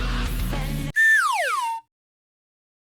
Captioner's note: slide whistle